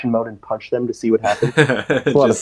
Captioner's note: laughs